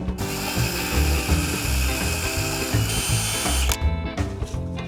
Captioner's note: bright music; drill whirring